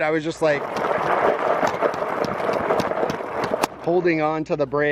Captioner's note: gravel scraping